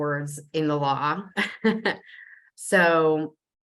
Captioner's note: chuckling